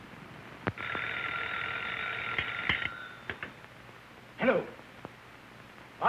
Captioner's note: phone ringing